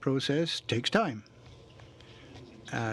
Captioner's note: speaking in french